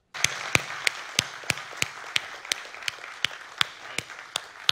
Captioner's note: audience applauding